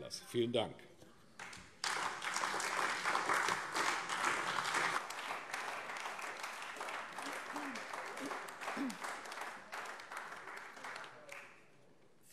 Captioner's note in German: Beifall AfD